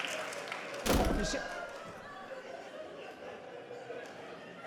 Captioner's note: door slamming